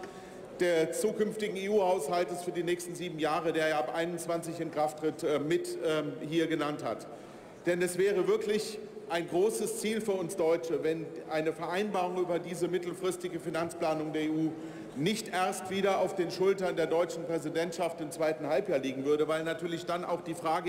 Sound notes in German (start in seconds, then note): none